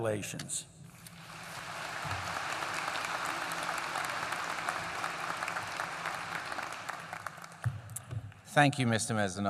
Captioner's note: applause